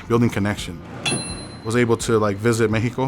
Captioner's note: metal lid clangs on counter